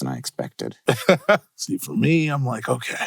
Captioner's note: laughs